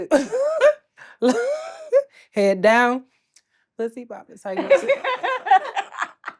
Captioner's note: laughs